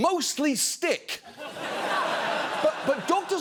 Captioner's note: audience laughing